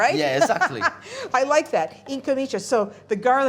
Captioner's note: laughing